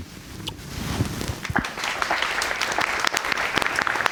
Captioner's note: audience applauds